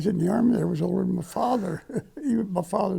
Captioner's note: laughing